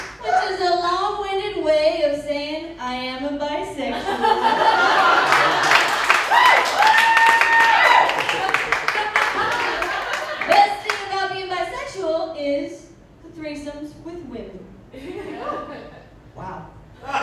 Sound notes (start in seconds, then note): 3.9 laughter; 6.4 crowd applause and cheers; 17.0 laughter